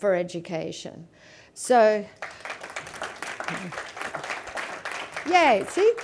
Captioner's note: applause